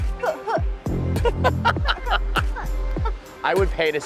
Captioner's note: Tyler laughs